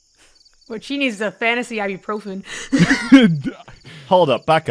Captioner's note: laughs; laughter